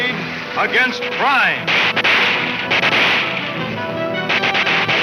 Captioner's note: guns fire; dramatic music